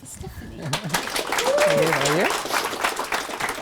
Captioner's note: applause